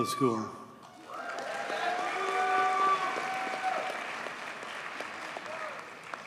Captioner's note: audience cheers and applauds